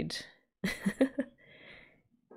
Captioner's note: laughs